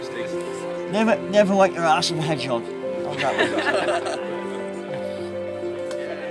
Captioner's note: laughing